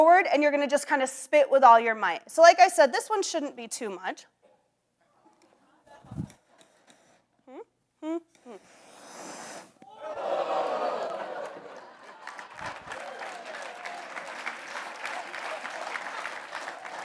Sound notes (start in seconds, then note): 8.9 flames hiss; 10.1 audience gasp and applauds